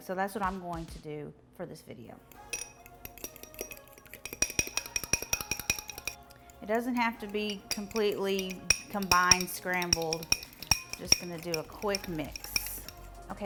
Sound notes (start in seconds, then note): 2.5 fork clanging; 2.5 upbeat music